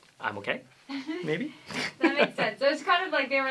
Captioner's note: laughter